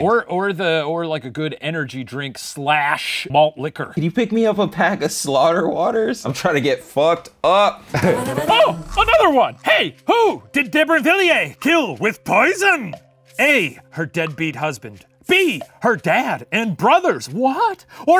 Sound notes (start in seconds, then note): 7.9 laughing